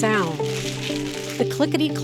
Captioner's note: tiles clacking and shuffling